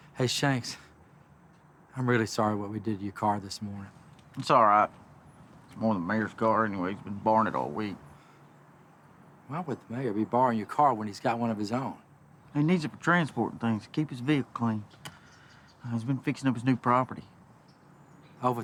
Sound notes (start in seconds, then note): none